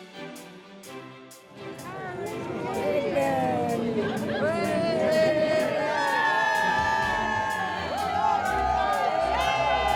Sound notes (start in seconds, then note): 4.2 crowd cheers